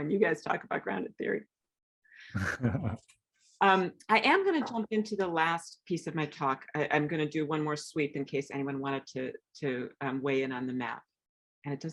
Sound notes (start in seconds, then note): 2.4 laughing